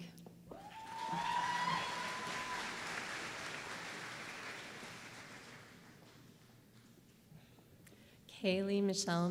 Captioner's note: applause